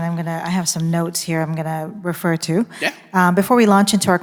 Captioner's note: none